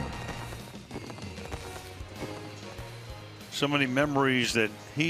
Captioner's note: fireworks blasting